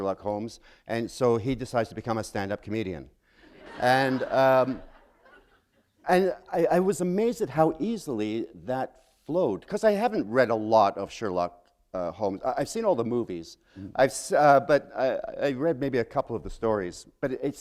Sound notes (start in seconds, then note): 3.4 laughter